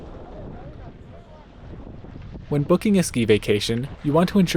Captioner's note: crowds